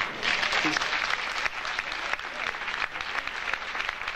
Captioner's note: audience applauding